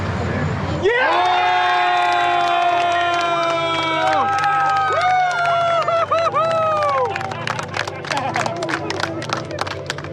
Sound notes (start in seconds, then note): 0.7 cheering